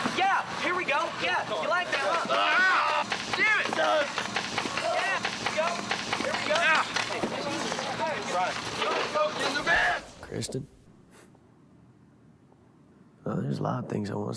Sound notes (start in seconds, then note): 3.6 shots firing